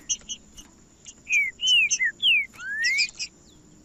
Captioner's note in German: trinca ferro cantando